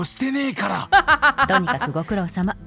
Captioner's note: chuckles